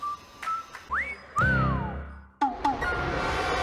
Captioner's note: whistling